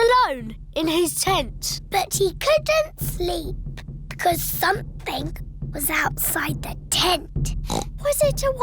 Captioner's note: oinks